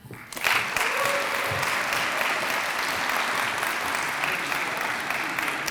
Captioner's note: audience applauds and cheers